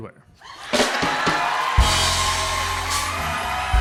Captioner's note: cheers and applause